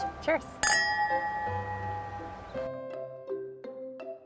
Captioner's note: glass clanking